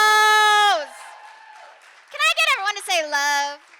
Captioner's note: audience cheering and applauding